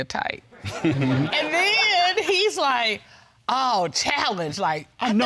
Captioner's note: judge chuckles